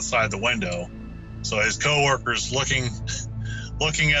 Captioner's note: laughs